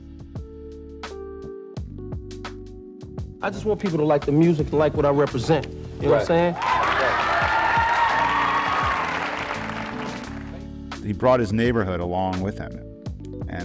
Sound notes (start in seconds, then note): 0.1 calm hip-hop music; 6.0 audience cheering